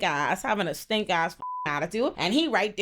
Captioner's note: beep